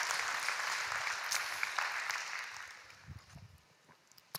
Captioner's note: applause